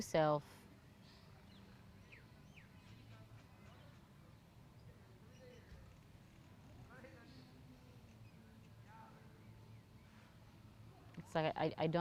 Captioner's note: pauses 10 seconds